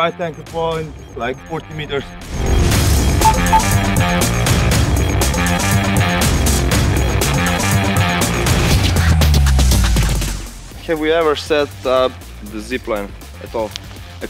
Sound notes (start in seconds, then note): 3.2 beep beep; 3.2 rock music